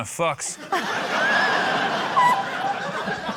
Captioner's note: laughter